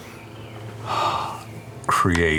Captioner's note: sighs